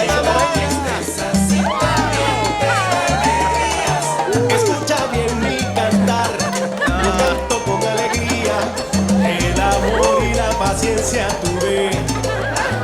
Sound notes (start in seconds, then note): 6.0 Todos ríen; 7.1 Música latina